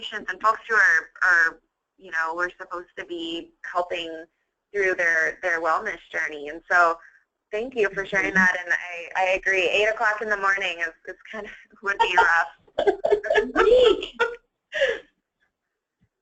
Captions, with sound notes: from patients and folks who we're supposed to be helping through their wellness journey and so thank you for sharing that and I agree, eight o'clock in the morning it would be rough. (laughs)